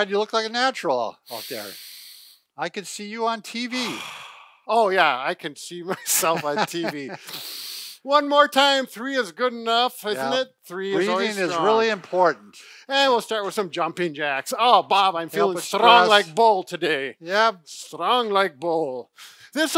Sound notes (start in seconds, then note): 1.3 breathing in through nose; 3.7 breathing out the mouth; 7.2 breathing in through nose